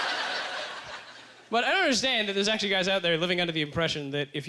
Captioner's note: audience laughter